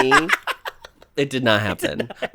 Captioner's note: laughs